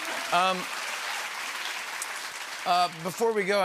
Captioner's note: applause